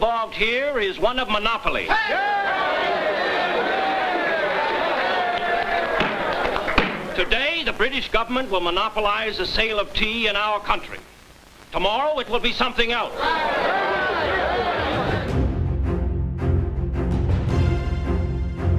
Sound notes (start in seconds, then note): 1.8 crowd Cheers; 13.1 crowd Cheers; 14.8 dramatic Music